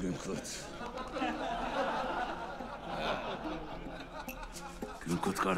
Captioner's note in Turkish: Gülme sesleri